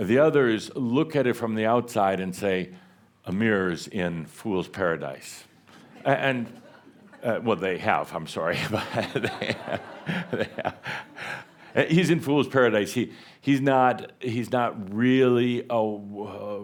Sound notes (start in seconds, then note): 8.5 more laughter, Adamus chuckles